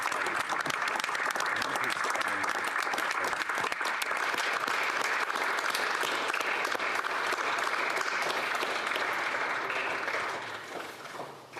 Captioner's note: applause